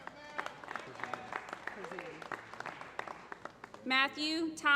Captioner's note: applause